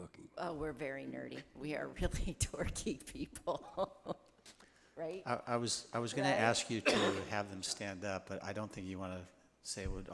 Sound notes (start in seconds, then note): 4.7 laughs